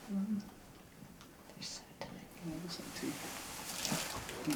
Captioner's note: whispering